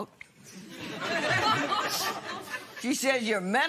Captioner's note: laughter